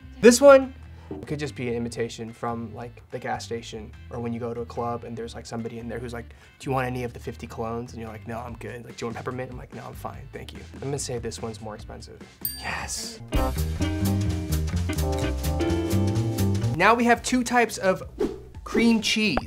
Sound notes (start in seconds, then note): 12.4 bell dings; 12.4 jazzy music